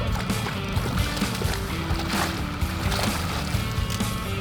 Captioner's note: net splashing